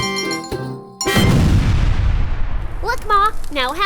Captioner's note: explosion rumbling